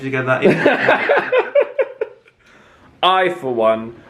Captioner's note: laughing